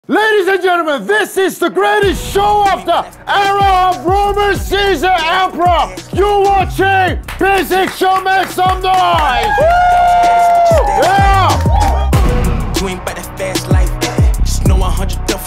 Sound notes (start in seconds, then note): 8.8 sound of cheering